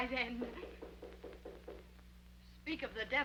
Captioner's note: knuckles rapping